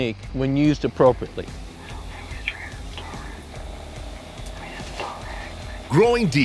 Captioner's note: whispering